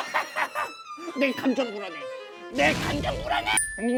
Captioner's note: empty laugh